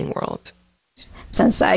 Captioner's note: soundbite of archived recording